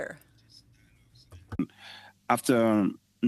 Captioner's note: speaking French